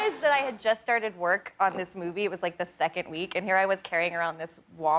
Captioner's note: laughter